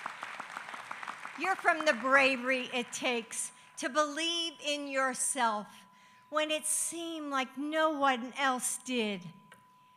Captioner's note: applause